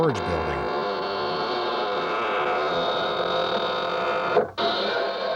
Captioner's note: door squeaks